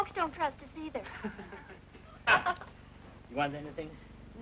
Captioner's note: group chuckling